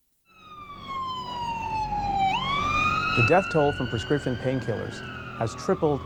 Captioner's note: sirens